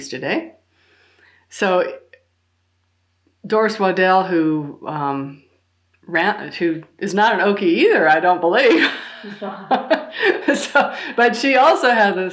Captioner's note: laughs